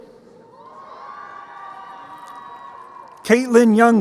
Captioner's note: crowd cheering